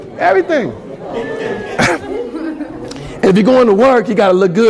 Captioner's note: laughter